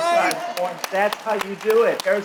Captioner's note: audience clapping